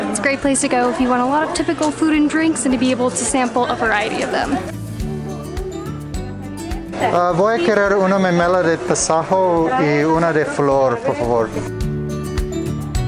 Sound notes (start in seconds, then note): 4.8 upbeat music; 7.2 people chattering; 7.2 speaking Spanish